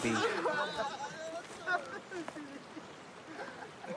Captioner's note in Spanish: Risas